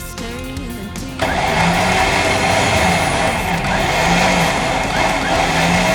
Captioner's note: engine revving